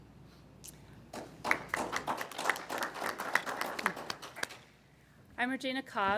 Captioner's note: applause